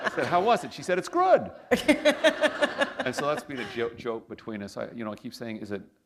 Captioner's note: laughter